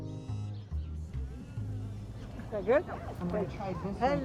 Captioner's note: people talking